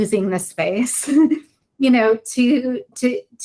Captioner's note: woman chuckles